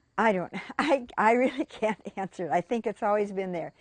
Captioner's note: laughing